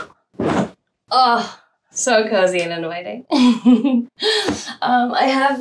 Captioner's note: chuckles